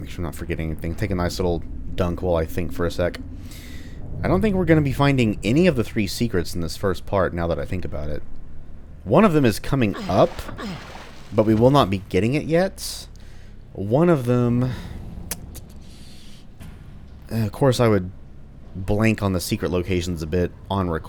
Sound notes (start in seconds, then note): 15.1 thinking sounds